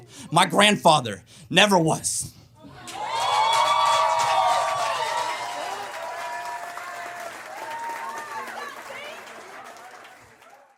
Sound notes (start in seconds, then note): 2.8 audience cheers and applauds